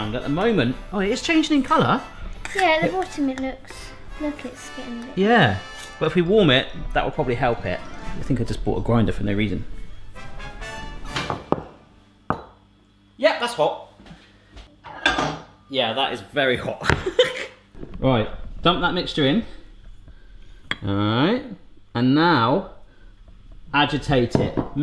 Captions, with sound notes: At the moment, oh, it is changing in colour. - Yeah, the bottom, it looks, look, it's getting-- - Yeah. Well, if we warm it, that will probably help it. I think I just bought a grinder for no reason. (banging pestle) Yep, that's hot. Yeah, that's is very hot. (laughing) Right, dump that mixture in. All right, and now, agitate it,